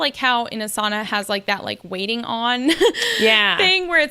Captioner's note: laughs